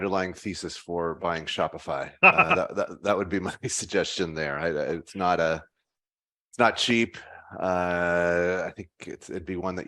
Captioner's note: laughs